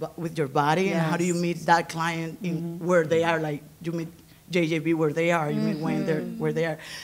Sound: others agreeing

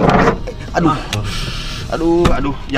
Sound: creepy sound

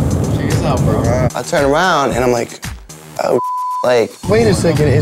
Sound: beep

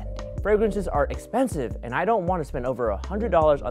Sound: none

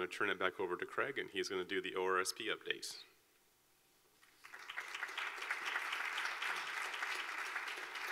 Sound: clapping

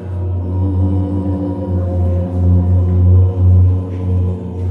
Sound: pipes resonating

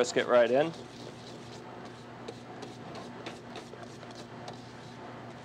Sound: whisk scrapes

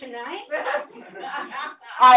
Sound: laughter

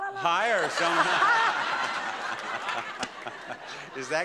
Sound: laugh

